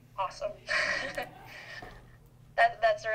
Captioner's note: laughs